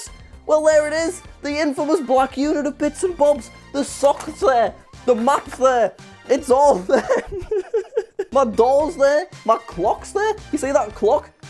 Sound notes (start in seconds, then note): 7.0 laughs